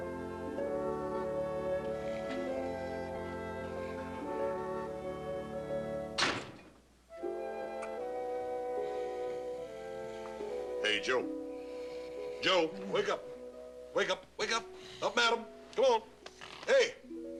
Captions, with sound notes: ( door slams ) HEY, JOE. JOE! WAKE UP. WAKE UP, WAKE UP. UP AND AT 'EM! COME ON, HEY!